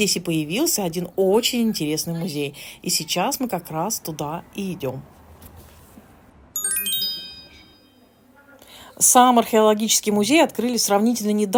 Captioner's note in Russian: колокольчик